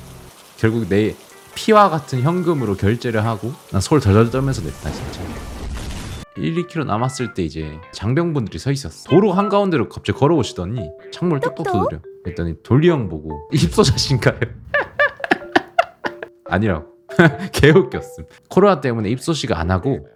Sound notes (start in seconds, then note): 14.7 everybody burst out laughing